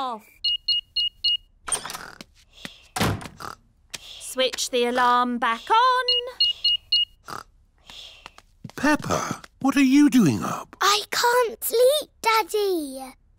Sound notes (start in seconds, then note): 0.3 beeping; 6.0 beeping